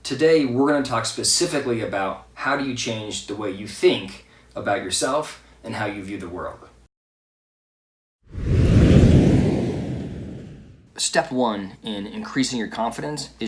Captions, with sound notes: Today, we're gonna talk specifically about how do you change the way you think about yourself, and how you view the world. (air whooshing) Step one in increasing your confidence